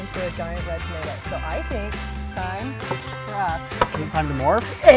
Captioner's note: tools thumping